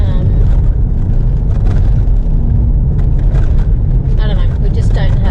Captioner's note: car and contents rattle; car and contents rattle some more